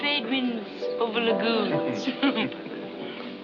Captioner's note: both laugh